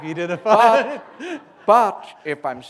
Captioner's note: laughter